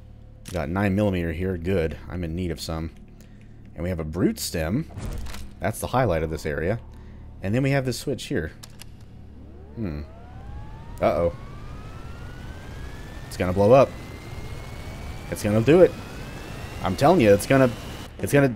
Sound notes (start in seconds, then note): 9.5 loud windup sound